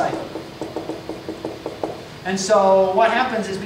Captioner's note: marker clacks